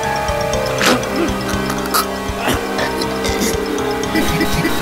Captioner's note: chokes; Mario makes crazy noises